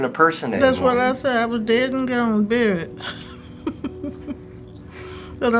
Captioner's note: laughs